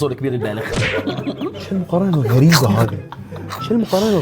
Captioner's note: laughs